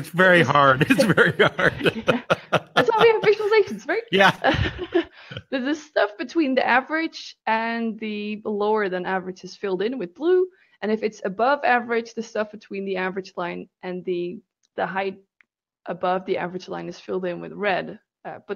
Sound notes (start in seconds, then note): 0.0 laughs